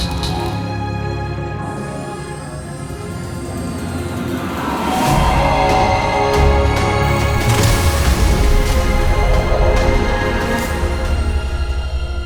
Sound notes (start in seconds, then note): 1.6 beeps; 3.1 robotic sounds; 7.1 dramatic music; 7.1 robotic sounds